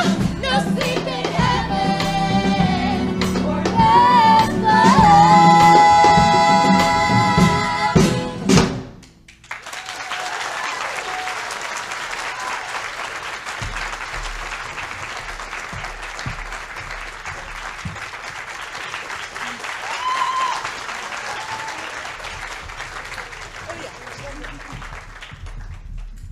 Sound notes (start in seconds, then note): 9.4 audience Clapping